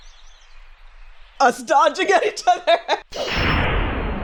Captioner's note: laughing